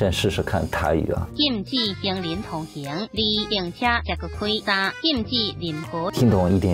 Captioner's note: speaking Taiwan dialect